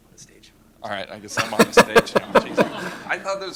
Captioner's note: laughter